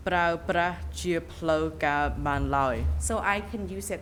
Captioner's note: speaking in a foreign language